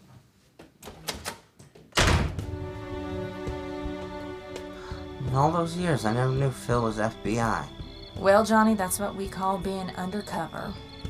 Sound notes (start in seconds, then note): 1.9 door slams shut; 2.5 relaxing music